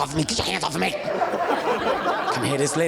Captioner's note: audience laughing